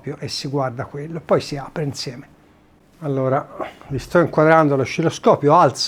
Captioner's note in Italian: schiarire la voce